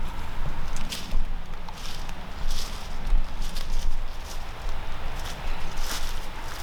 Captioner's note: truck rumbling; leaves rustling